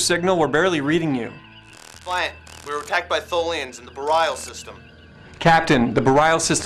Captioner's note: comm, breaking up